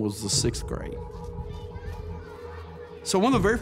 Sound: children calling in background

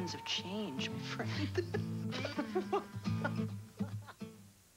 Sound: all three laugh

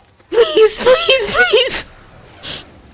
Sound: crying

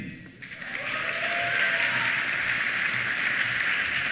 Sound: applause; cheers

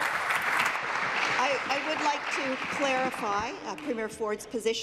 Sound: applause

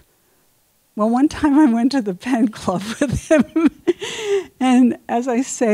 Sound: laughs

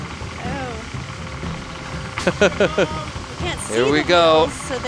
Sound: laughing

